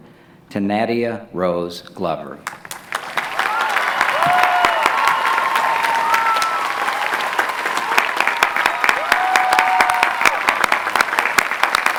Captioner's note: clapping